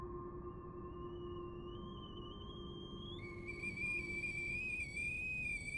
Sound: kettle whistles

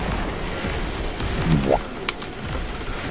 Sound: boo-womp Sound effect

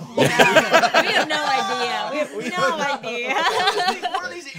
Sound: group laughing

